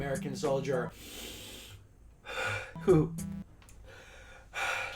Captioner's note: breathing; more breathing